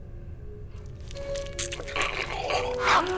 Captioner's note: squelching